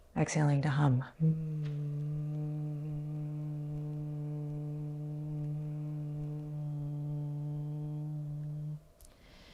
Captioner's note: humming